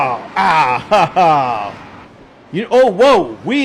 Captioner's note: laughing